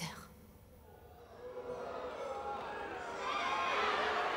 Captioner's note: crowd booing